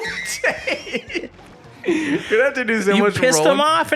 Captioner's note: laughs